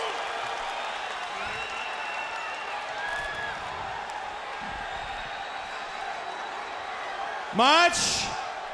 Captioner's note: crowd cheering